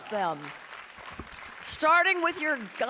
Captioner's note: audience applauding and cheering